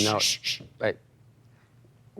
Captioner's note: shushes